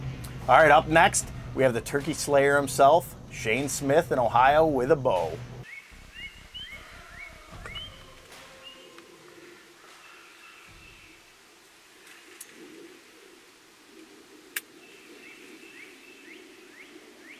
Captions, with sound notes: - All right, up next we have the turkey slayer himself, Shane Smith in Ohio with a bow. (bird chirps)